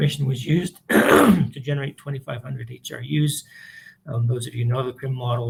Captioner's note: clears throat